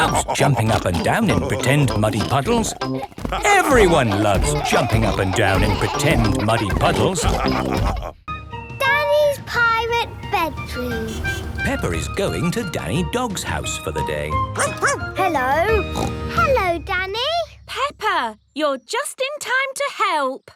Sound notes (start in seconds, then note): 14.5 barking; 14.5 snorting